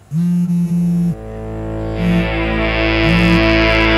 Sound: phone buzzing

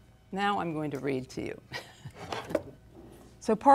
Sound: chuckles

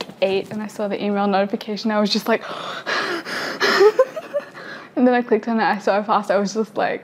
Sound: gasping

